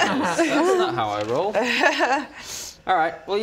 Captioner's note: unfooled laughter